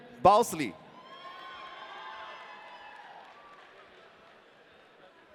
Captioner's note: audience cheering